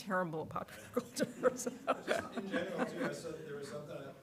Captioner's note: laughs